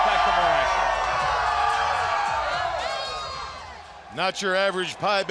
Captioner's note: crowd cheering